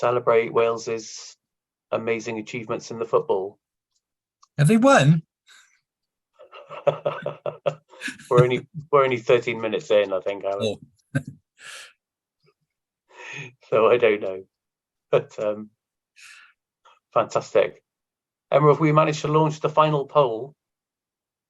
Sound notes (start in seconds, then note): 11.0 laughs